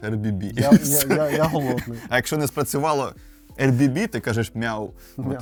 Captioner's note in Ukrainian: сміх